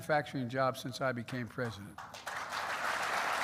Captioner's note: applause